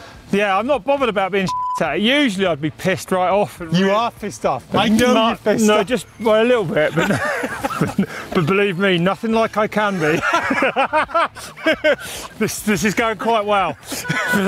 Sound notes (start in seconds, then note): 1.4 beep; 9.8 laughs